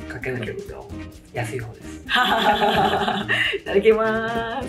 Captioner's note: laughs